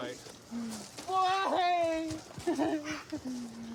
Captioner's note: sobs